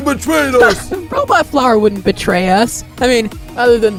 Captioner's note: scoff